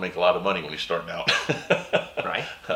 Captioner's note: laughing